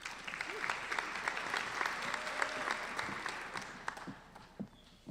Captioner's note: applauding